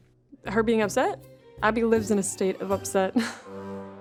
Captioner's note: chuckles